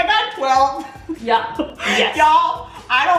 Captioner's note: laughing